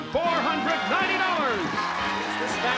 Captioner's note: cheering